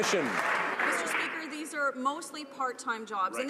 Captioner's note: some Applause